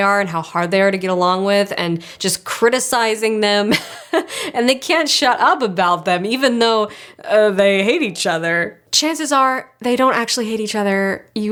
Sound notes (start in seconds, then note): 3.7 chuckles